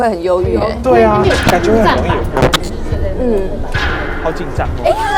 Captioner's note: microphone signal going haywire again